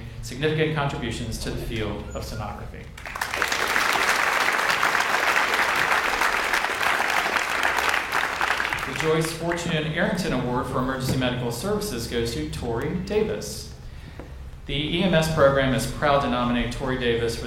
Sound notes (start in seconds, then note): 3.0 audience applauds